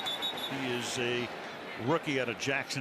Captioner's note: whistle blowing